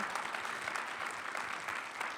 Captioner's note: audience applauding